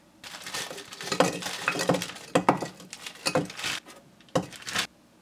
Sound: rolling bananas

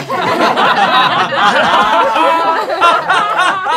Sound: laughing

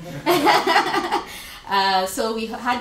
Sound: laughter

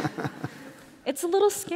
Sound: laughter

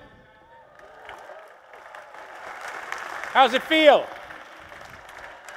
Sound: applause

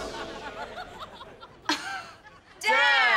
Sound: chuckles

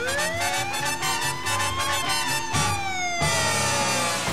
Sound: siren wailing

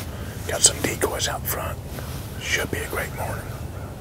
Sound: whispering

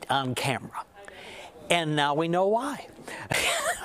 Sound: laughter

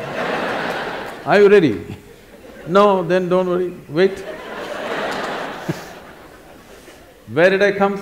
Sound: laughter; laughter

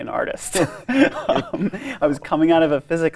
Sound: both laughing

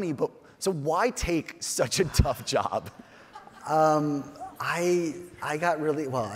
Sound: chuckles

